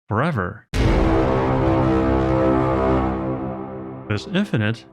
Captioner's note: dramatic horn sound effect